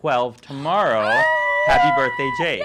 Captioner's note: cooing